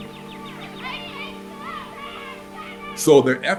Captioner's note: children chattering